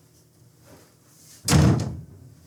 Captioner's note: door slam